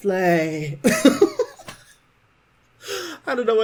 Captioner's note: laughing